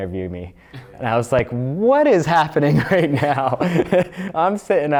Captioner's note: laughs